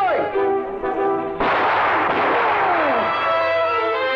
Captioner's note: gun blasting; intense orchestral music